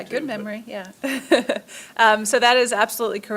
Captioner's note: laughs